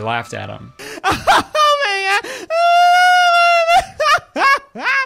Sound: weird laughter

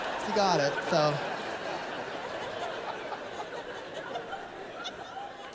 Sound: laughter

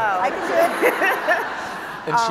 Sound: laughing

